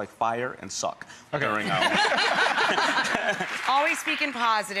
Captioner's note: everyone laughs